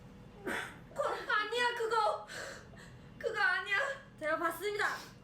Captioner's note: cough